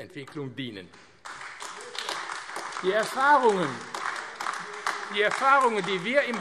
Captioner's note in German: Beifall AfD